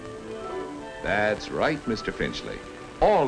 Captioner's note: voiceover